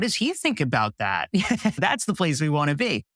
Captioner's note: laugh